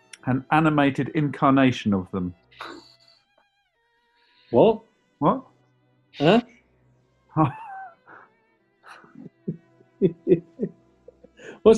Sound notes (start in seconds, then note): 2.5 sniggering; 8.9 chuckling